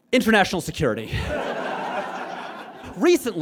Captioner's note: audience laughs